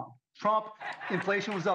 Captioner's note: applause